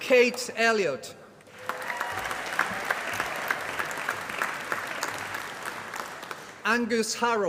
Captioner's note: applause